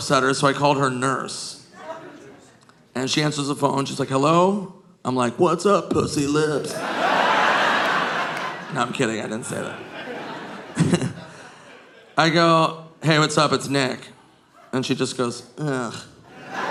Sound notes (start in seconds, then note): 6.5 audience laughing; 11.1 chuckles